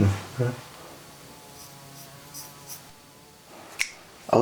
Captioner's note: a fly buzzes somewhere in the background